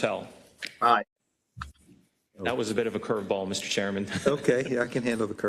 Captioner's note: laugh